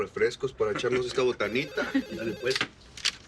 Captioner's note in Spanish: Suena el teléfono